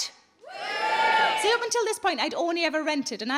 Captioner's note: scattered cheering